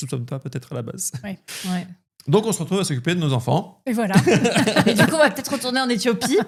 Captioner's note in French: rires